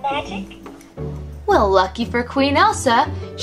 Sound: voiceover

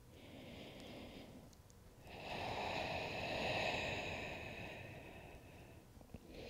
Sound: heavy breathing

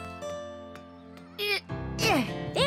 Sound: grunting

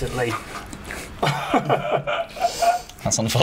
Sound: startled gasps

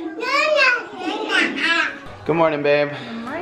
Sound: babbling

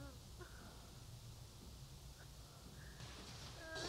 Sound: Franky sobs

